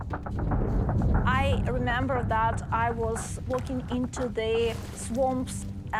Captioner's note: speaking English